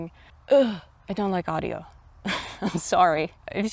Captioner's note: laughs